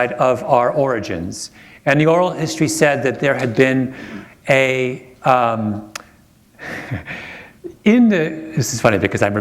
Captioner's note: chuckle